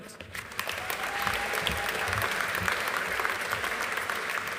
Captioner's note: audience applauding